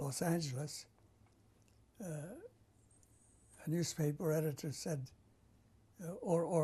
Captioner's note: pauses for 3 seconds